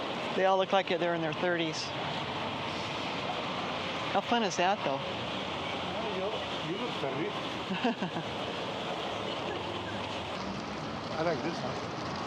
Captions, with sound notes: They all look like they're in their 30s. How fun is that, though? I don't know. You look thirty [laughs] I like this one.